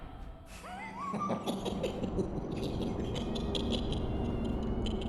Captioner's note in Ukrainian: уїдливий смішок